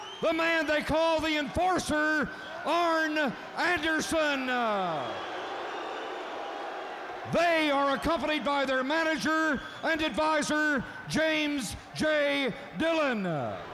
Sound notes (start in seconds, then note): 5.9 crowd boos